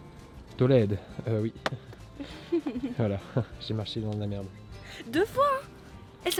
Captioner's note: laughs